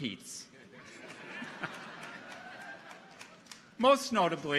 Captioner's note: audience laughs